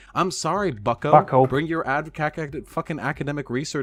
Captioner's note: stammering